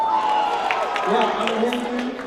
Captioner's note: applause